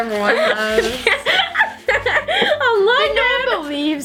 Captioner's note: laughing